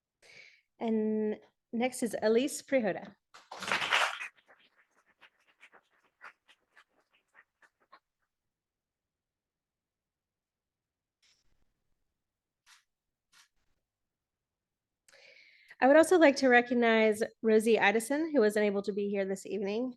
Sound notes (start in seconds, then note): 3.4 audience applauding